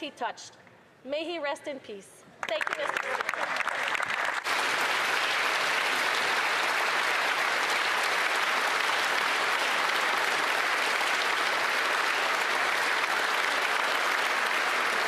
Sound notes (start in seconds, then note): 8.6 applause